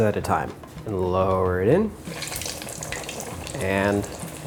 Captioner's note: chicken sizzling